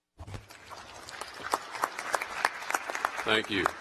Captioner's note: applause